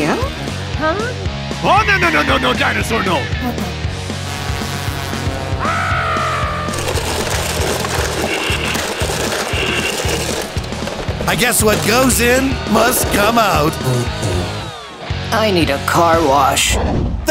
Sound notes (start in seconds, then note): 3.8 airplaine noises; 5.9 crowd; 6.4 crushing noises; 13.0 farts